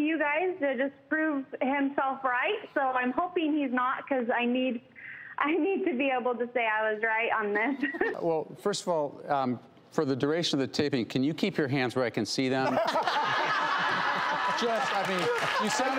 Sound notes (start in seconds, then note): 7.7 laughs; 12.6 all laughing